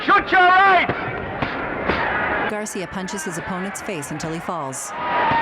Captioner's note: crowd shouting indistinctly